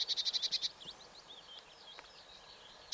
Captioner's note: birds calling